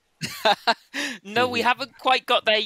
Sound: laughs

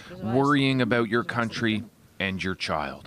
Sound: speaking Foreign Language

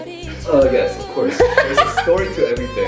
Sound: laughs

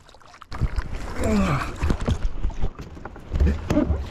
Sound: let’s out a heavy breath

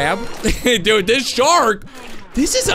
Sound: little laugh

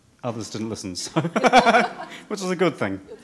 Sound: laughs

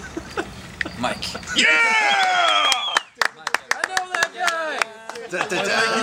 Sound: applause

